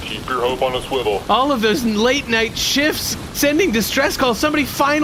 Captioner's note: excited